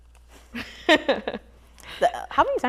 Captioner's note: chuckles